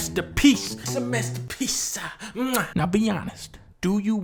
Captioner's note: muah